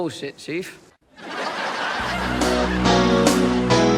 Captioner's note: crowd laughter, 80's sitcom music